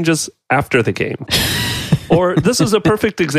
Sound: laughs

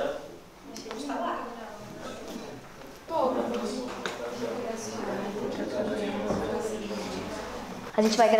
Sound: indistinct chatter in the background

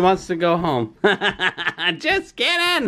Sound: laughing

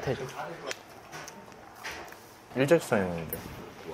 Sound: Crunch

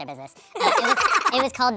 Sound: laughs

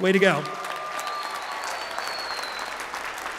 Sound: applause

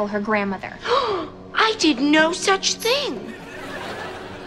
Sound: gasping

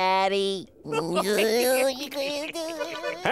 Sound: laughing

